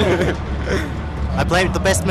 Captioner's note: chuckling